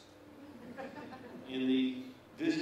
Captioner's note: laughter